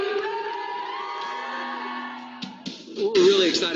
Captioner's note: crowd cheering